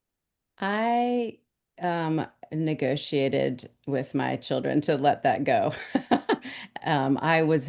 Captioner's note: woman laughs